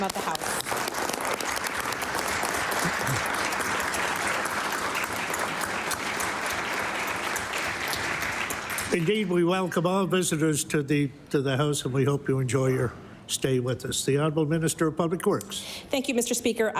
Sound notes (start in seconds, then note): 2.9 applause